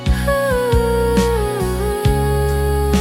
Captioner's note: sigh~